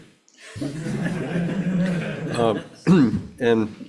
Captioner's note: attendees laughing